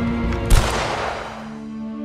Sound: gunshot

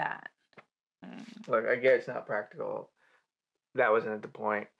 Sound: he inhales

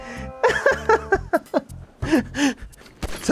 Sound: laughs

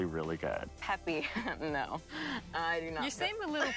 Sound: laughing

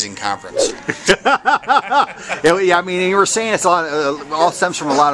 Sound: laughter

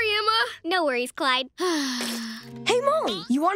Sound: sighing

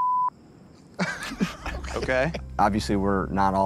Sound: stifled laughter

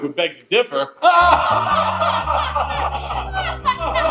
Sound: laughing

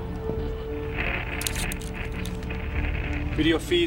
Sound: static

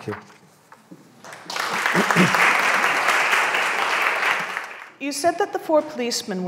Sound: audience applauding

